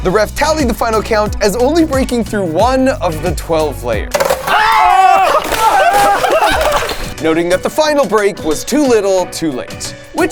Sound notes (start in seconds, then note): 4.1 ice shattering; 4.5 friends screaming and laughing